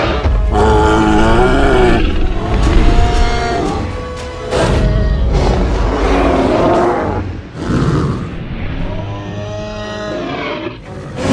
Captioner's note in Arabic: أصوات تريسيراتوبس